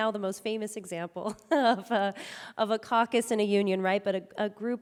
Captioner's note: chuckling